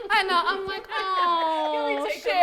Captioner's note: laughs